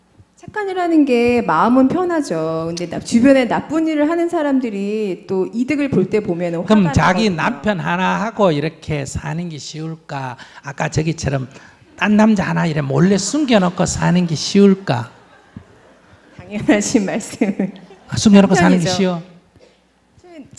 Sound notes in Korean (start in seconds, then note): 12.9 청중 웃음; 17.6 웃음